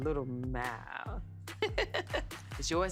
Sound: laughs

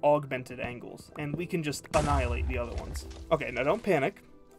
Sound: explosion

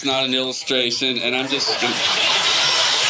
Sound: audience laughing

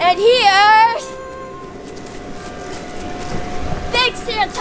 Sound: footsteps pattering

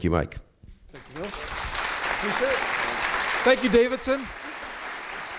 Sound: audience applauds

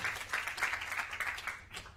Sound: applause

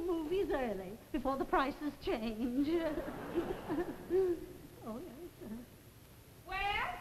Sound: giggles; audience laughs

